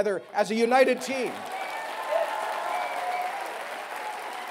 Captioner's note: cheering